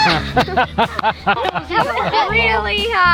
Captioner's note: laughs